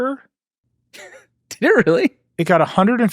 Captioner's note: laughs